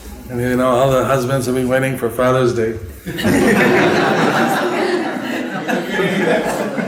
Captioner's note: laughter